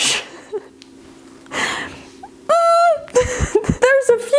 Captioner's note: giggling